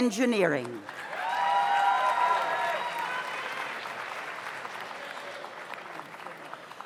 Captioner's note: audience applauds; audience cheers